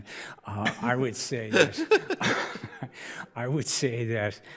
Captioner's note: judges laugh